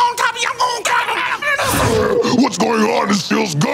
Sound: yells

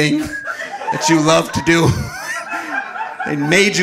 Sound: audience laughing

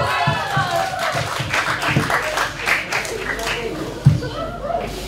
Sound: applause

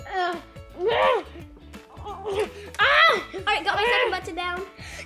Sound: groaning

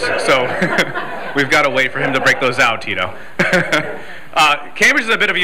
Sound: laughter

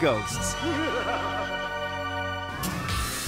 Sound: laughing

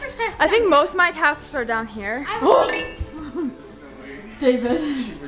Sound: gasps

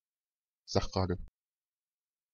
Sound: fast Pronunciation

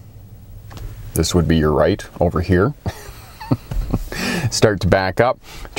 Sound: chuckling

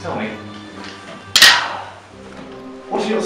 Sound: clanking

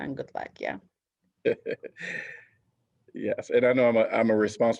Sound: laughter

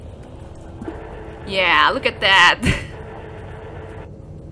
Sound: chuckles

